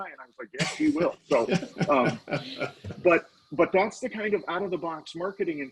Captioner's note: laughing